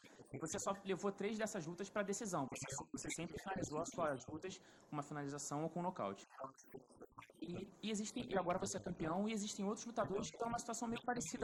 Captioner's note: speaking foreign language